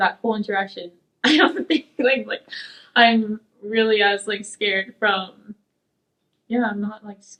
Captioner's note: laughs